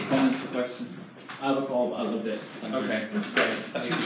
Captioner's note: man in audience speaking off mic